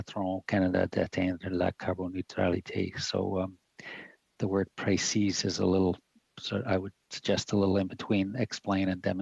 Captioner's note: speaking French